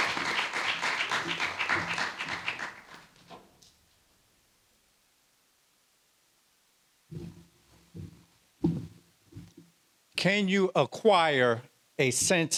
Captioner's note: applause